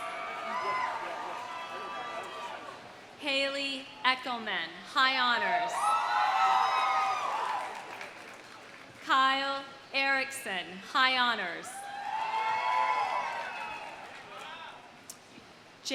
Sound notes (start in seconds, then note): 0.0 audience cheering; 5.6 audience cheering; 6.2 audience applauding; 11.8 audience cheering; 11.9 audience applauding